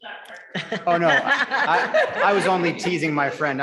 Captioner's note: members laughing